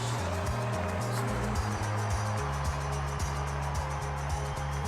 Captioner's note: crowd cheering